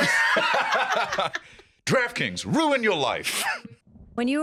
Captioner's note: laugh